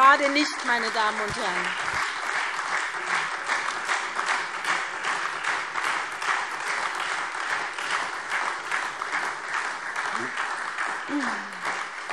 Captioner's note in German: Beifall SPD und Freie Demokraten